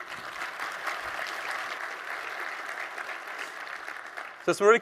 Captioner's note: audience applauding